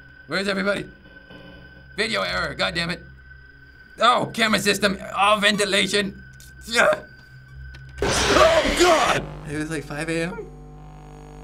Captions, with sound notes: Where is everybody? Video error, goddamn it. Oh, camera system. Oh, ventilation. - (in game: growl) - Oh, god! It was 5 AM?